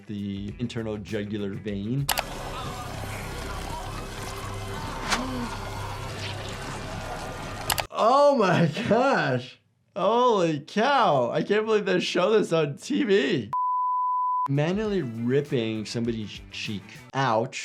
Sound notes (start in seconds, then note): 5.0 flesh squishing; 13.6 color bar beep